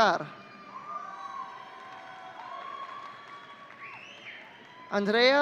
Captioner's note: audience cheering